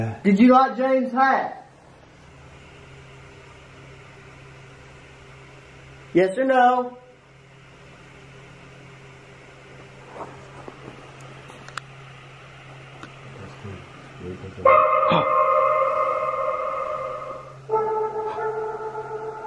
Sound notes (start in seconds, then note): 10.0 flashlight turns on; 14.6 unknown barking sounds